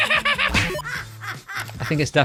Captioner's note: evil laugh